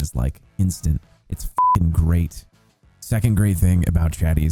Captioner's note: beep